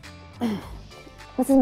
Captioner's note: Clears throat